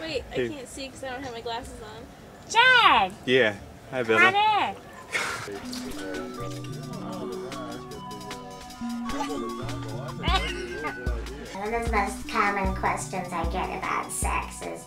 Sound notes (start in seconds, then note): 5.5 ethereal music; 6.1 background chattering